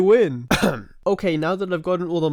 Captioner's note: cough